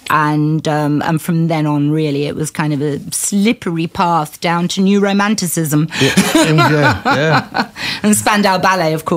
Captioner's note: laughter